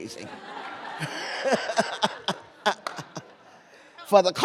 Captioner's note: laughter